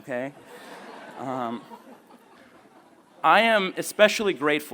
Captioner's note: laughing